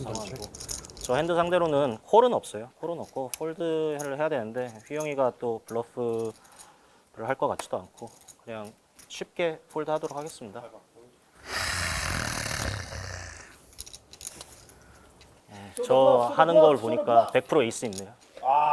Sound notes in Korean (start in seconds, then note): 11.4 콧방귀